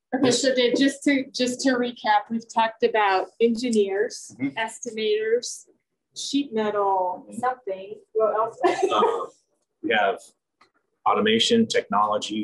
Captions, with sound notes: Okay. So Dave, just to recap, we've talked about engineers- -Mm-hmm -... estimators, sheet metal, something. What else? [laughs] We have automation technology,